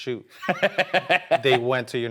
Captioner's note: laughs